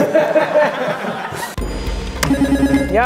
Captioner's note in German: Lachen